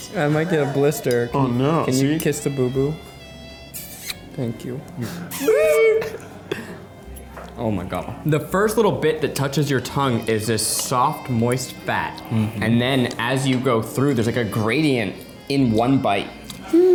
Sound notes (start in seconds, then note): 3.7 puckering kiss sound